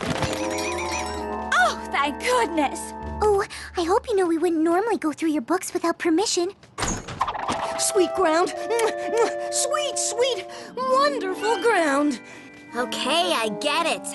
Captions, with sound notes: Oh, thank goodness. Oh, I hope you know we wouldn't normally go through your books without permission. (door open) Sweet ground. (kissing sound) Sweet, sweet, wonderful ground. OK, I get it!